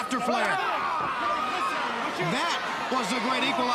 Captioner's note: crowd cheering